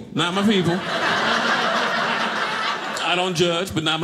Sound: audience laughing

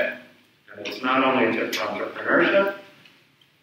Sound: speaks away from mic

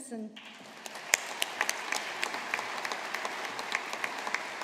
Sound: audience applauding

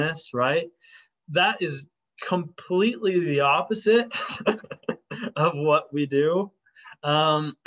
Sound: laughter

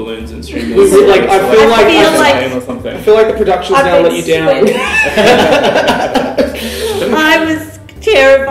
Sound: laughter

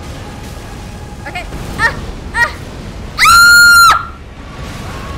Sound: scream

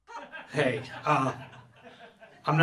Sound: audience laughing

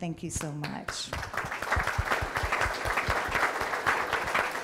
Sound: audience applauding

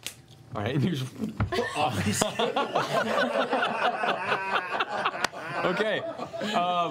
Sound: laughter

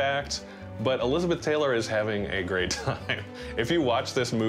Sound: laughs

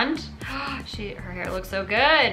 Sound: gasps

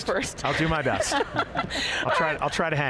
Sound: both laughing loudly

